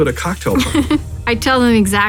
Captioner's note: laughs